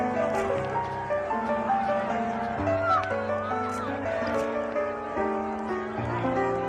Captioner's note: crowd shouting; gentle piano music; cameras clicking; crowd shouting